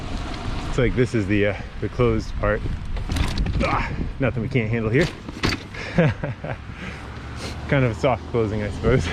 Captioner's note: laughing